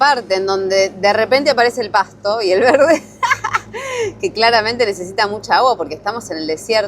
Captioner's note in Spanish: risas